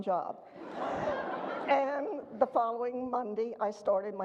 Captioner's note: audience laughter